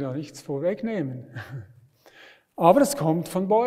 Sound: laughs

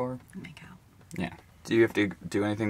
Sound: sarcastically

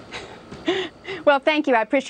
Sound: chuckling

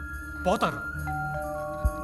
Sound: door bell rings

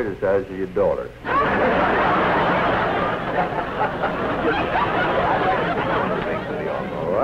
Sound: laughter

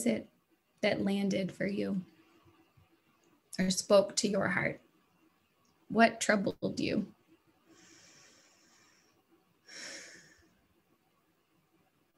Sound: pause

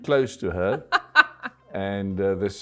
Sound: laughs

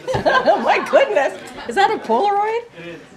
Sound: laughs

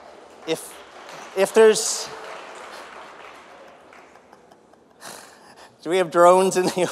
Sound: applause

